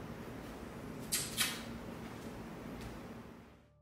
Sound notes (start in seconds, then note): 1.0 kissing